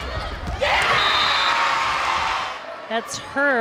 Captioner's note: crowd cheering; players yelling